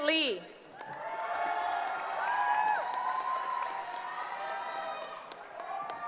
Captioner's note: cheering